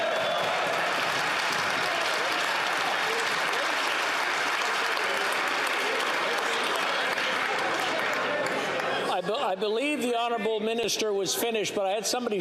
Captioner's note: yelling